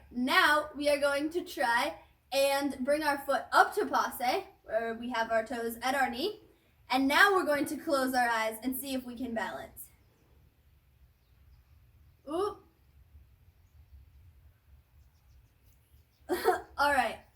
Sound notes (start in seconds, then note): 16.3 laughs